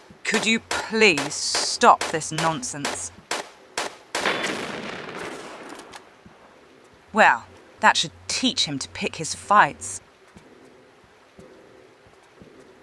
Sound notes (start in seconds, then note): 4.2 boom